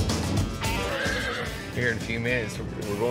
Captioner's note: horse neighs